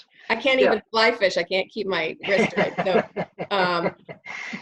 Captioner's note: laughing